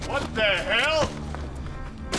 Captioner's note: gun shot